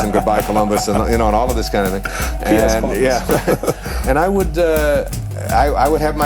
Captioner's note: chuckle